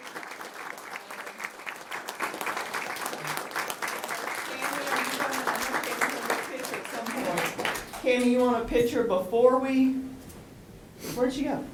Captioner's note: applause